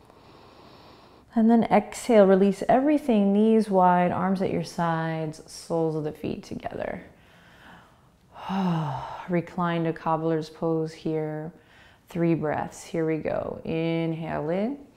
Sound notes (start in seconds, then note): 0.2 inhaling; 7.2 exhaling